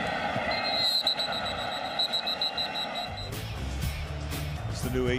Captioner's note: whistling